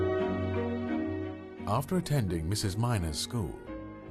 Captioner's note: voiceover